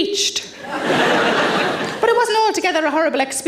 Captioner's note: audience laughs